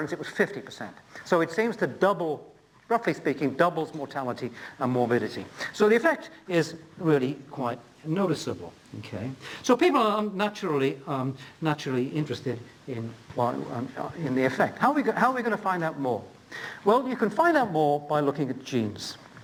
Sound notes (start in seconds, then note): none